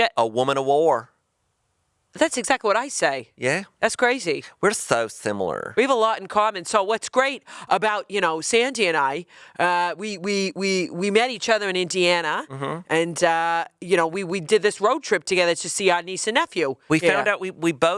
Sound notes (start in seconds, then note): none